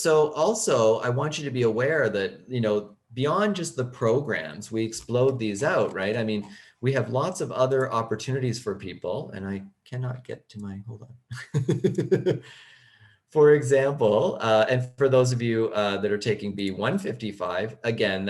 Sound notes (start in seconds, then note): 11.3 laughing